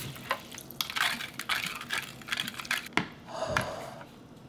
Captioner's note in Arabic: صوت المياه في جميع أنحاء الوعاء